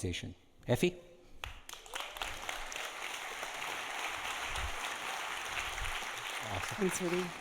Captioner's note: audience applauding